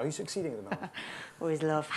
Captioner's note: laughs